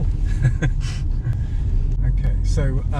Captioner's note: laughing